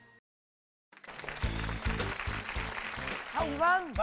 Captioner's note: applause